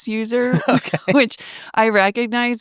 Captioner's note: laughs